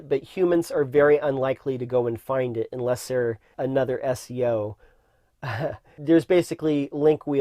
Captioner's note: laughs